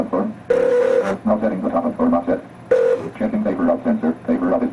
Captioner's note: machine printing; machine rings